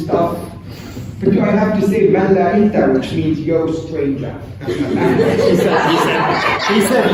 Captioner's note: speaking arabic; laughter